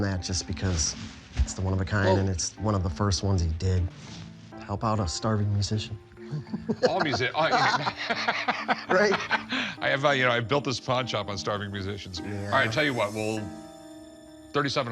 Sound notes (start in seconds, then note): 9.0 laughs